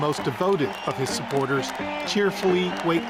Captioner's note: cheering